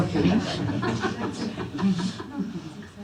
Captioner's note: laughter